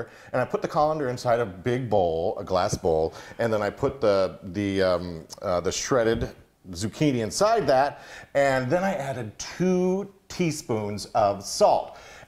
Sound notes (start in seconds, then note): none